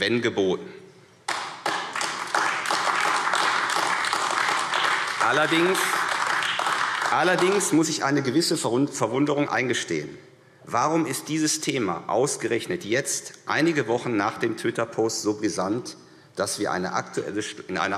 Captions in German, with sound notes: wenn es geboten war. [Beifall AfD] Allerdings muss ich eine gewisse Verwunderung eingestehen. Warum ist dieses Thema ausgerechnet jetzt, einige Wochen nach dem Twitter-Post, so brisant, dass wir in